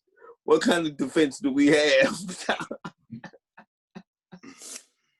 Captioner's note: laughing